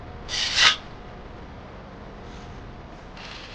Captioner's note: sword slicing